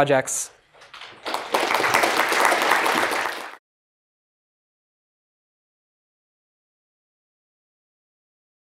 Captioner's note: applause